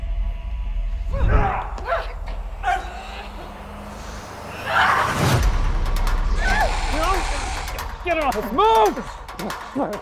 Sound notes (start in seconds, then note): 2.6 grunting; 4.8 yelling; 9.7 energetic electronic music